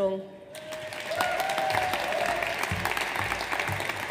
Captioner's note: audience applauds